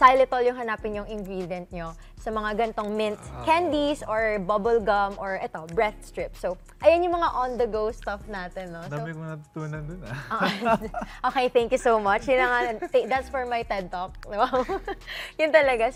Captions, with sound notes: Look for xylitol in the ingredients of these kinds of mint candies, bubble gums, or breath strips. That's it for our on-the-go stuff. - I've learned so much. - [BOTH CHUCKLE] Okay, thank you so much. That's for my TED Talk! Wow! Just kidding.